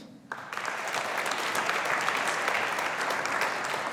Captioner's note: audience applauding